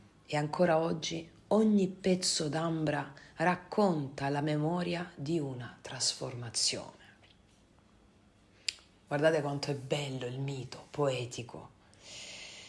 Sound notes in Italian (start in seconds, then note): none